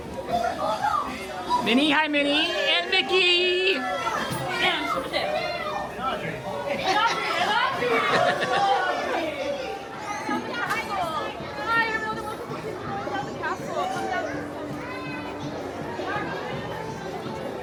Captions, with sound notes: Minnie. Hi, Minnie! And Mickey! [guests murmuring excitedly]